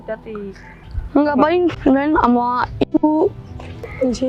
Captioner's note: scared